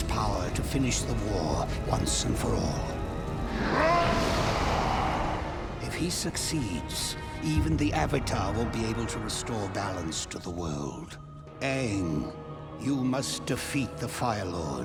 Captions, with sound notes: to finish the war once and for all. [screaming] If he succeeds, even the Avatar won't be able to restore balance to the world. Aang, you must defeat the Fire Lord